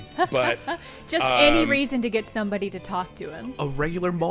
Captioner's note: laughing